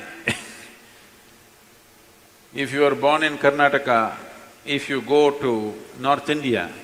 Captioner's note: laughs